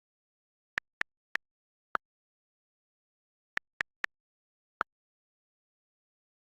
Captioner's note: keyboard clicks